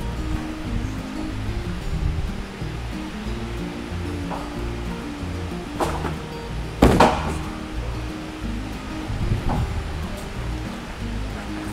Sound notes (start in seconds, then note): 0.0 feet thud; 0.0 trampoline clacks; 0.2 bright music; 6.8 feet thud; 6.8 trampoline clacks